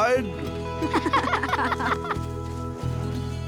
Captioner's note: badou and munroe laugh